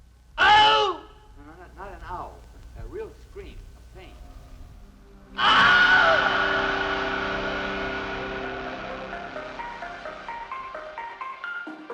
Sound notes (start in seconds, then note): 0.4 man screams again; 5.3 Wilhelm Scream